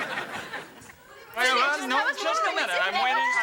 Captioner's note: audience laughing; overlapping chatter